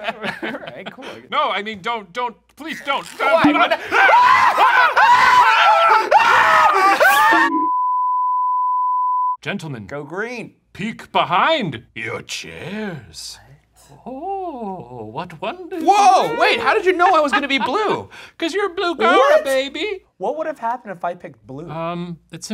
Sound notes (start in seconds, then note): 3.8 screaming; 5.8 Professor yelling; 7.5 screen beeping